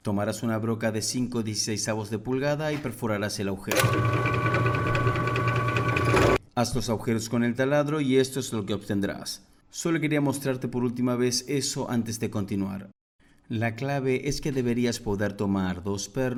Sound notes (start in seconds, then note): 3.7 Se oyen sonidos de perforaci—n